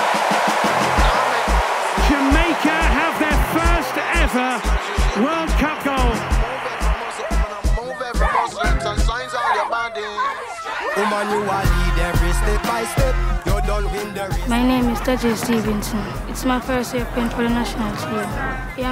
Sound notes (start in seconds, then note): 8.4 girls yelling